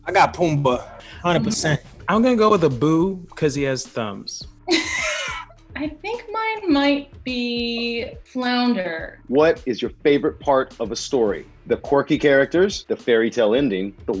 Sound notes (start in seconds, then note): 4.7 laughs